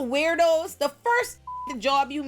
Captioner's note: beep